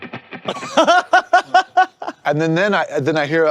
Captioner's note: guitar playing; laughing